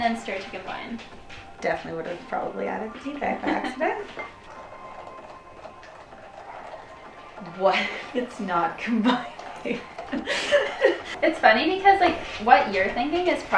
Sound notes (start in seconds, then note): 10.1 laughing